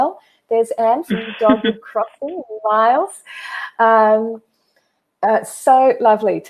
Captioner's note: chuckles